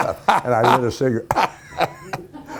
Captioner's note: Ken Howard laughing